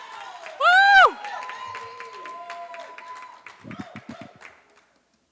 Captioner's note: applause